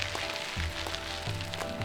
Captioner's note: wheels whirring down the road